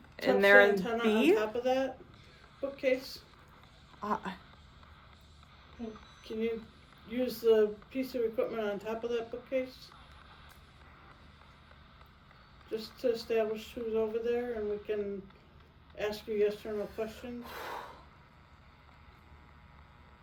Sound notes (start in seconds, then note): 17.4 deep breath